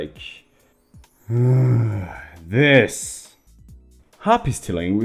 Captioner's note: sighs